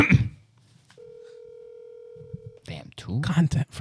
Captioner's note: phone Ringing